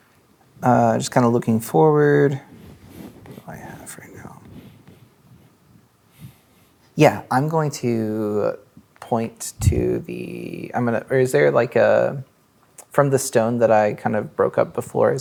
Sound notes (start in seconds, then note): 3.9 speaking quietly